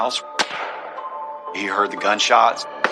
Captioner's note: gunshot